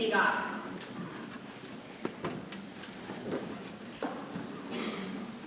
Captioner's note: people chattering softly